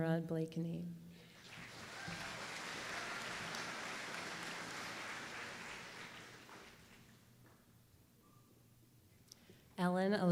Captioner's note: applause